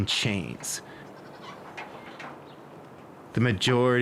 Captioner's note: farm sounds